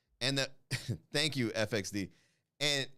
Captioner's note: chuckle